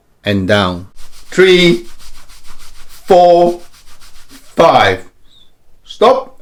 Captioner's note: cloth rustling